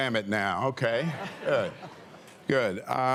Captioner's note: laughter